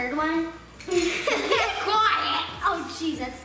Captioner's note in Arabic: يضحك